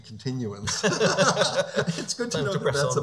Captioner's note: laughing